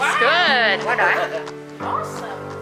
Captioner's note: crowd goes nuts